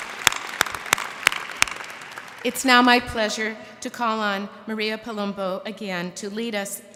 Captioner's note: applause